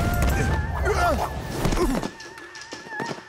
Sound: groaning

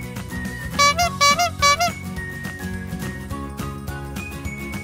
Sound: honking horn

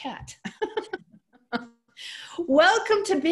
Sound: laughter

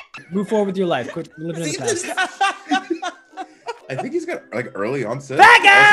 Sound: laugh

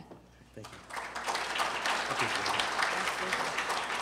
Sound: applause

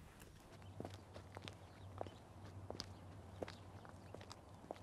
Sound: footsteps

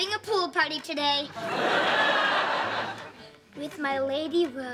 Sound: laughing

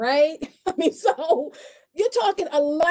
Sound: laughs

